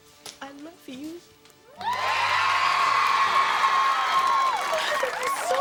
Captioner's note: audience screaming in joy